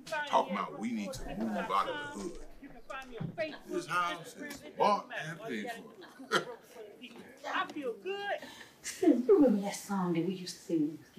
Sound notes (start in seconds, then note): 5.6 chuckles